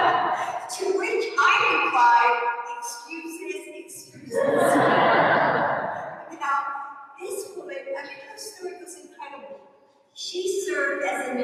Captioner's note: laughter